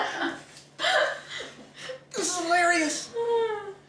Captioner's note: Olivia chuckles